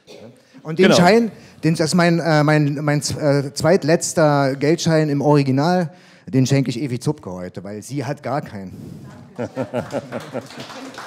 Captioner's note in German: Applaus